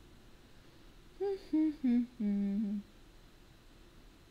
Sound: humming

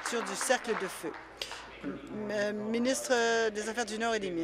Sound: applause

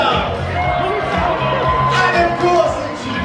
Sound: guests cheer

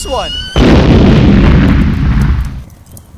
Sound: explosion, followed by fire crackling

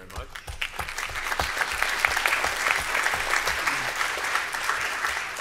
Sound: applause

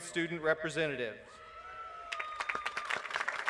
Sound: applause

